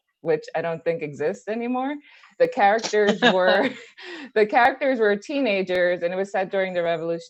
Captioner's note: laughs